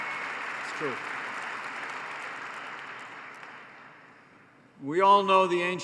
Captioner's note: applause